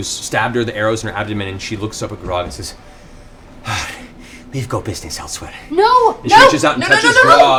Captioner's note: sighs